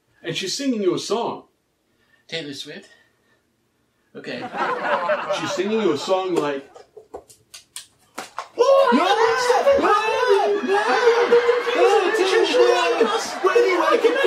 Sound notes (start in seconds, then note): 8.5 in squeaky voice again